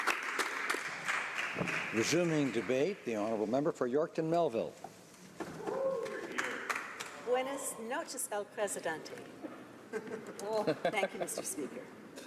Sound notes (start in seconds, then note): 2.1 applause